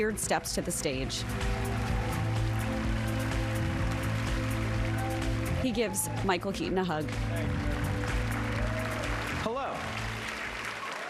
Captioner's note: applause